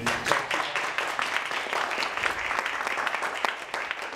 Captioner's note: applause